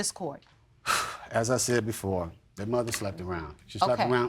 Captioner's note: sighs